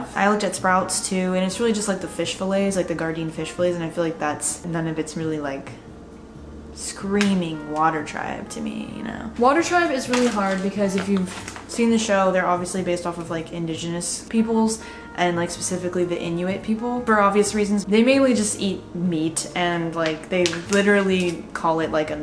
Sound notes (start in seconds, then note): none